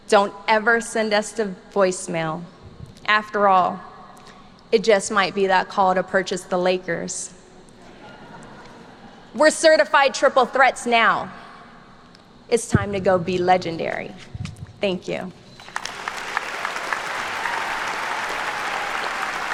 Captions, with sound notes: Don't ever send us a voicemail. After all, it just might be that call to purchase the Lakers. (students laugh) We're certified triple threats now. It's time to go be legendary. Thank you. (attendees clapping)